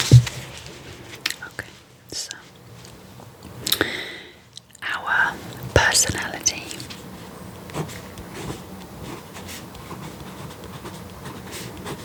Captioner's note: writing